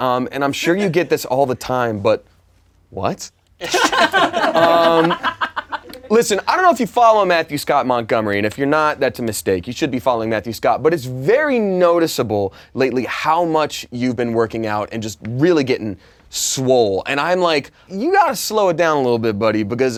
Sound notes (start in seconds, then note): 3.6 laughing